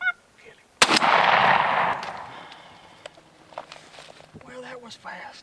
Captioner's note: gunshot firing